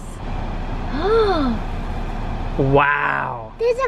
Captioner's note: gasping